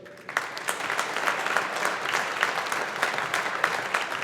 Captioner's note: audience applauding